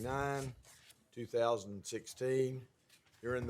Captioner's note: none